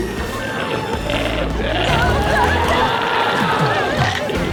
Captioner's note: glowzie roars